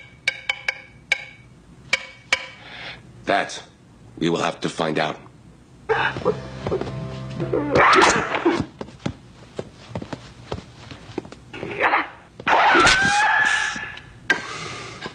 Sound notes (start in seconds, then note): 0.0 sticks tapping in musical rhythm; 7.7 sticks whipping and cutting the air; 9.6 footsteps